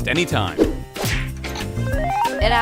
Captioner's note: woosh; kick